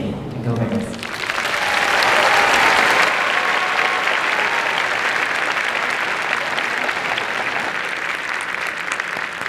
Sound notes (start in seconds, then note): 1.0 applause and cheering; 3.4 applause